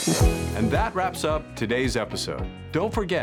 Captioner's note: voiceover